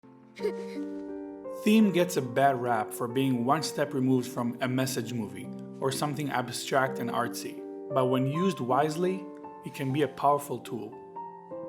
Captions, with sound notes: (giggling) (gentle piano music) - [Voiceover] Theme gets a bad rap for being one step removed from a message movie or something abstract and artsy, but when used wisely, it can be a powerful tool.